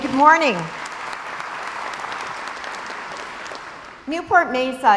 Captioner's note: crowd applauds